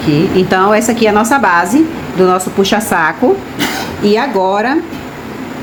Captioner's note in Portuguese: limpando a garganta